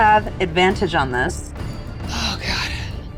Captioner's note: die rattling